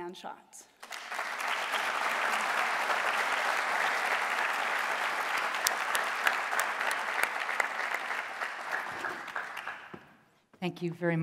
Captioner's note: applause